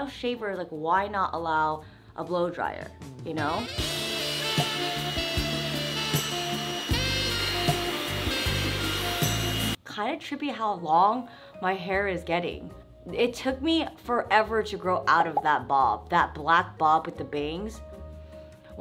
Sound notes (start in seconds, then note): 3.2 jazzy music; 3.4 blow dryer whirring